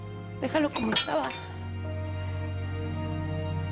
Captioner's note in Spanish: Ruidos con los vidrios